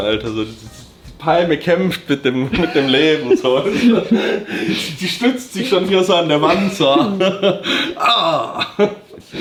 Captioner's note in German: gelächter